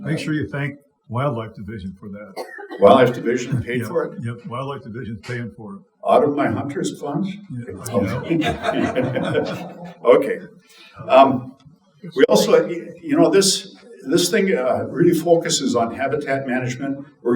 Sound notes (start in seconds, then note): 7.7 audience chuckling